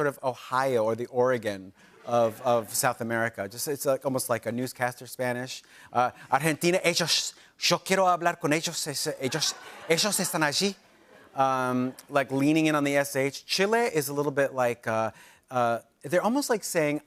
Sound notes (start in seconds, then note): 6.1 speaking Spanish